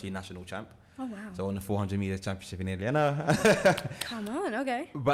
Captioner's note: chuckles